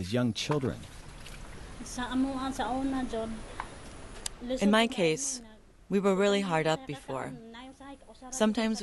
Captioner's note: through translator